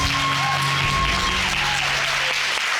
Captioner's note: audience whooping